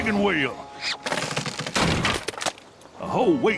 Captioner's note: clunk